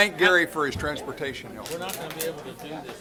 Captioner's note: gavel